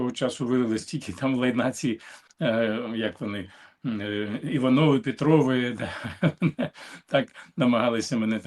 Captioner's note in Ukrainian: сміх